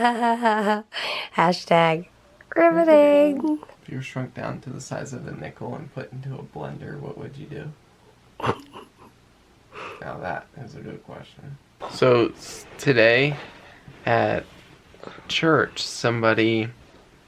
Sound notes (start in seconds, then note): 8.4 laughing